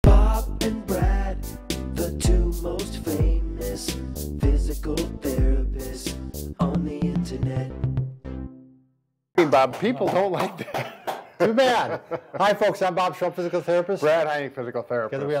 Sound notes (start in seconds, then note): 9.4 clapping; 10.4 laughing